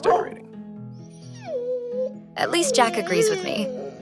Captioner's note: Jack barking